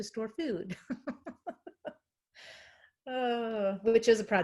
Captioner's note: laughing